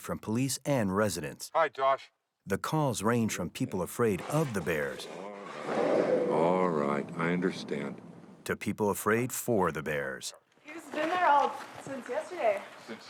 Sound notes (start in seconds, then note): 4.1 bear growling